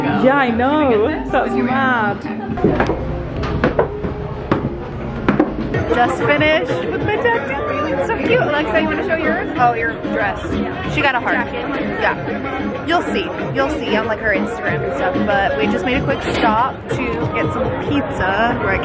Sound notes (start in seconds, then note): 3.0 shoes thudding